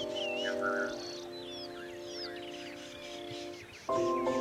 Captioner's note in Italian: cinguettii; musica malinconica